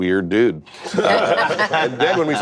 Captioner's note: laughter